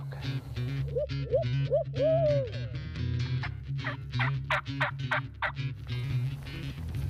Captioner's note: turkey calls; upbeat rock music